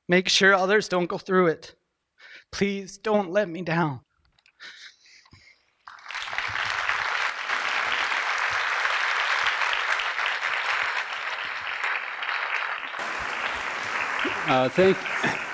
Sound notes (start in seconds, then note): 5.8 applause